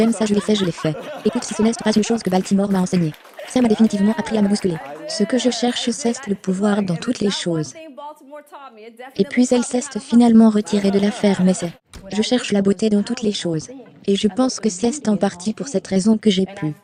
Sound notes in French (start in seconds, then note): 0.0 rires; 0.9 applaudissements du public